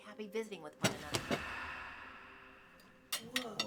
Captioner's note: book thudding; soft dramatic music